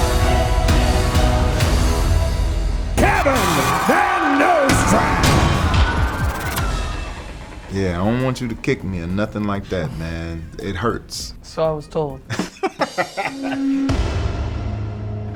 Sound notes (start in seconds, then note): 0.1 intense dramatic music; 4.8 dramatic thudding; 5.8 film reel rewinding; 12.2 Spice laughing; 12.3 bad joke drum sound